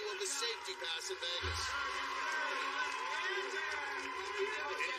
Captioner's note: cheers and applause